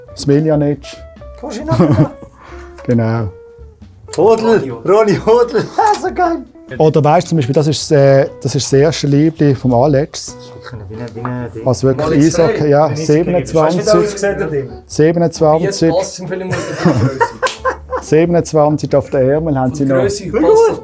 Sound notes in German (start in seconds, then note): 5.5 lacht; 16.4 lacht; 16.4 Streller lacht